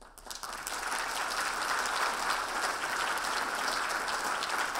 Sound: audience applauding

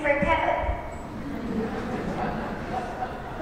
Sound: laughter

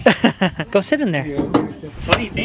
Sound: laughs

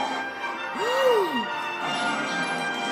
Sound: henchmen gasp

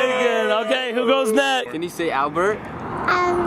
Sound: cheering

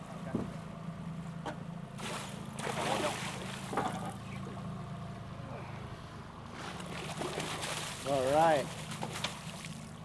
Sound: fish splashing

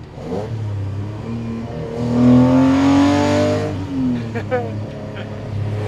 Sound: engine roaring; laughing

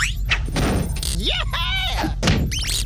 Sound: ceiling thuds; floor thuds; dial clicks and whistles

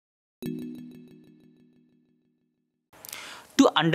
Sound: text chiming

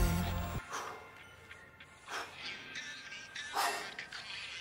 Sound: Bryan panting

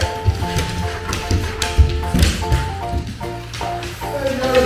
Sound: laughs

